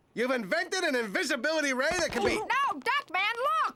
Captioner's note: none